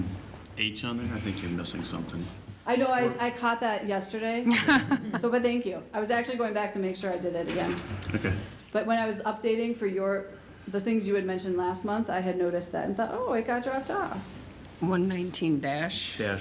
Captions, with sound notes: Real quick, except for subsection H on there, I think you're missing something. I know. I caught that yesterday. [LAUGHTER] So but thank you. I was actually going back to make sure I did it again. OK. But when I was updating for your-- the things you had mentioned last month, I had noticed that and thought,